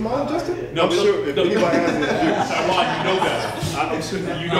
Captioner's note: laughter